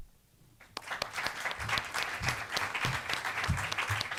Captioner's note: audience applauds